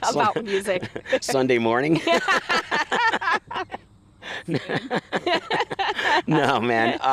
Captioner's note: laughing